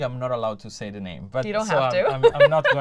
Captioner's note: laughter